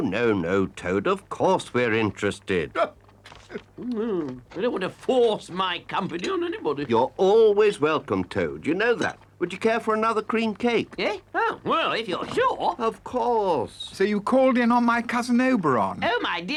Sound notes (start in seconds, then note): 3.0 Badger laughs